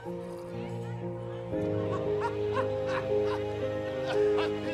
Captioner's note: background chattering